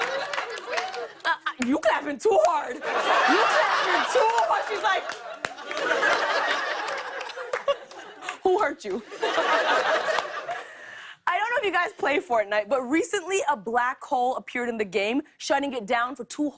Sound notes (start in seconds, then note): 0.0 laughter and applause; 7.1 laughs; 9.0 laughter